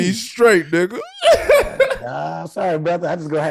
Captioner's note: laughing